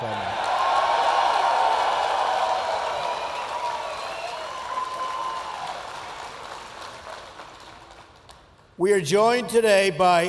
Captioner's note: applause